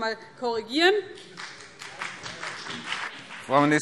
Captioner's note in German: Beifall BÜNDNIS 90/DIE GRÜNEN und vereinzelt CDU